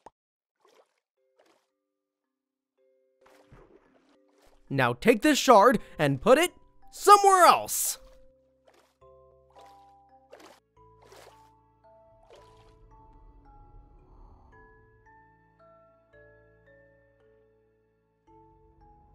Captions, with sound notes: Now take this shard, and put it somewhere else! (melodic music) (splashing)